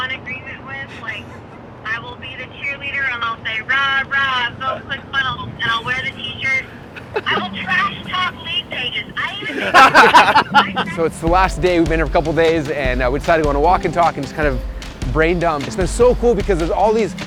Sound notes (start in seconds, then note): 9.4 laughter